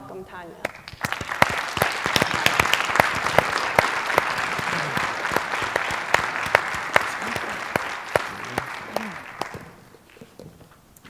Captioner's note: applause